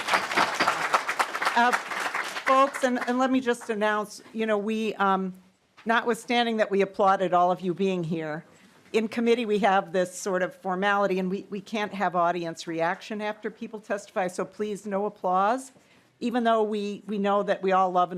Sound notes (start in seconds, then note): 2.9 applause